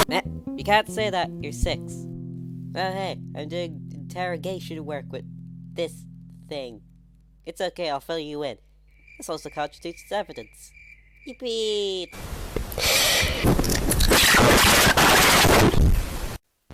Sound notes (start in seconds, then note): 12.7 big deep breath